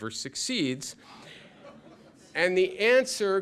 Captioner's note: laughter